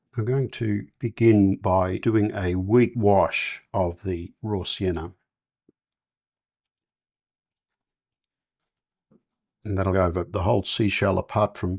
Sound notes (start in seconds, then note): 6.7 silence